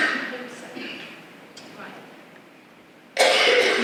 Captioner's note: coughing